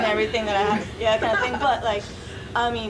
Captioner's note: audience laughing